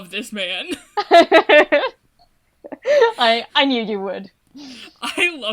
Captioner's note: laughs